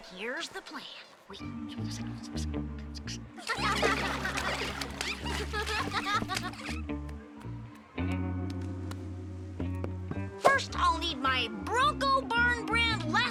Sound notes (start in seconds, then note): 0.3 whispering; 3.3 kids laughing; 3.5 water splashing